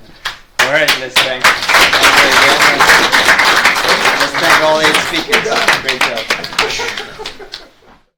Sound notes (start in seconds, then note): 2.0 audience claps